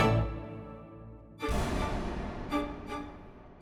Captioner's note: gun shot